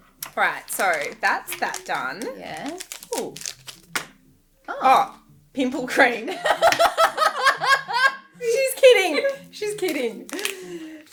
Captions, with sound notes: - Right. So that's that done. Cool. Pimple cream. (laughing) - She's kidding. She's kidding.